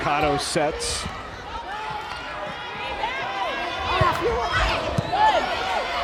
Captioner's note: players yelling